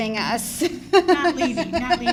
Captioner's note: laughing